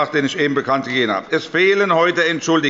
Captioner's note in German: Unruhe – Glockenzeichen des Präsidenten